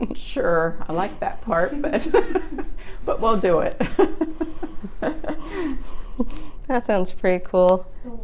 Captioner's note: giggling; laughing